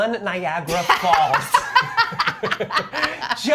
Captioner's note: both laugh